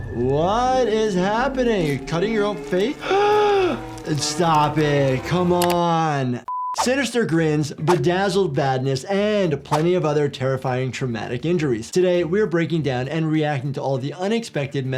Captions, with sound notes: - What is happening? Cutting your own face? (Doctor gasps) Stop it, come on. Sinister grins, bedazzled badness, and plenty of other terrifying traumatic injuries. Today we are breaking down and reacting to all the unexpected